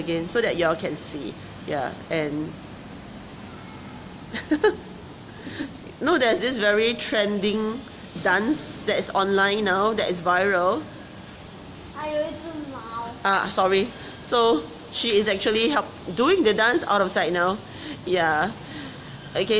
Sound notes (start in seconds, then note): 4.3 laughs; 12.3 child mumbling